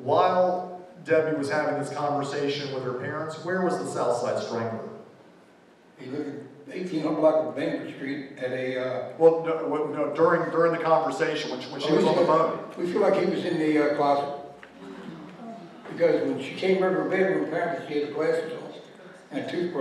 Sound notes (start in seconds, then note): 14.7 gasps